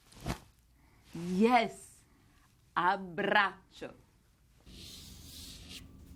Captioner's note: speaking italian